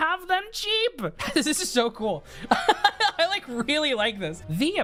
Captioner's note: laughs